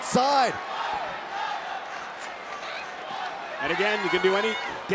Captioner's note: crowd chanting